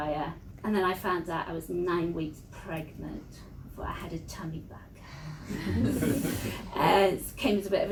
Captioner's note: laughter